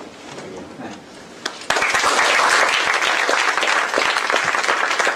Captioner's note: applause